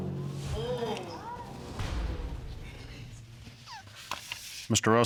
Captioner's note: audience exclaiming